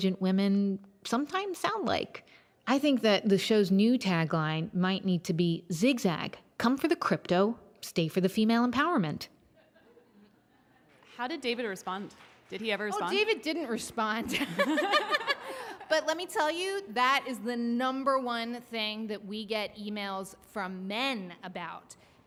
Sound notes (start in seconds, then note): 9.6 audience laughs; 14.3 both laugh